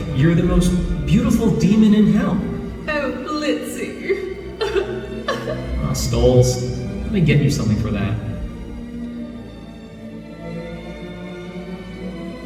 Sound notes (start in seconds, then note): 4.0 joyful crying; 9.7 music swells